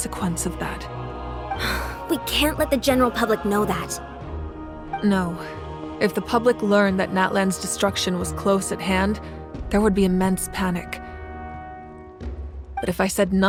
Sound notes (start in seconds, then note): 1.6 sigh